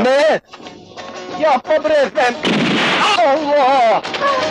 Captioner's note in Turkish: Silah sesi